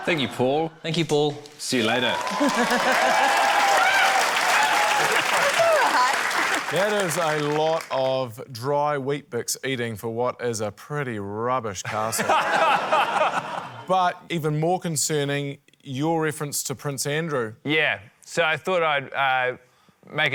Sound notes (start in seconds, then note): 4.4 cheering, applause; 11.9 laughter